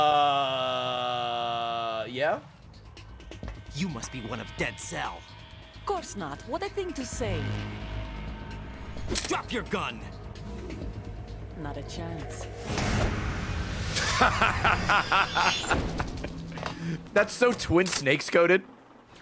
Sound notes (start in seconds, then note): 14.0 laughs